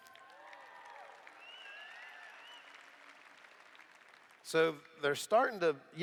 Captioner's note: applause